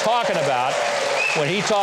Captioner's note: audience clapping and cheering